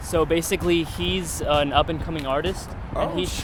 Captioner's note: voiceover